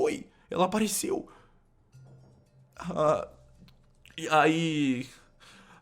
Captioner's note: nervous